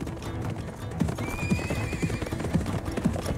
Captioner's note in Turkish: At kişniyor